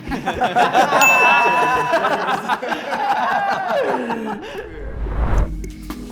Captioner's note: group laughs; bell dings; relaxing music